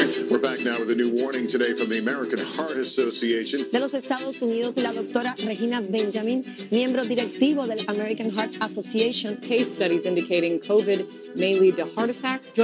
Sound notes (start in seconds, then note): 4.0 speaking Spanish